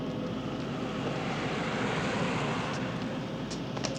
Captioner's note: car passing